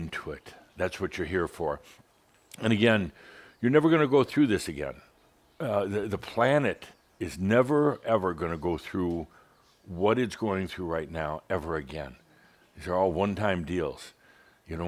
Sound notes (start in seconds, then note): none